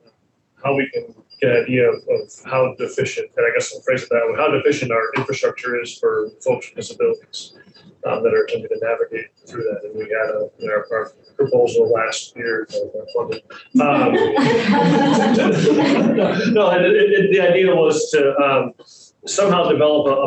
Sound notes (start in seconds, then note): 14.3 group laughs